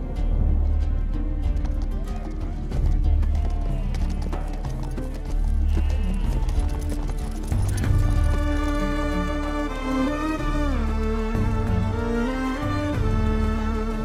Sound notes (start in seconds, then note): 1.7 sheep bleating